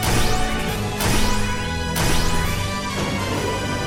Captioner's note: none